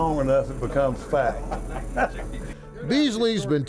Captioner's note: laughs